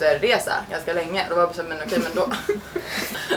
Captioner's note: laughs